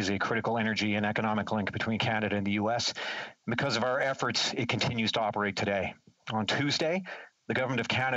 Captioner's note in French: voix de l'interprète